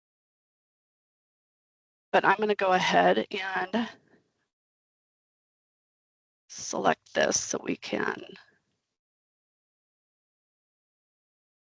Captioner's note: silence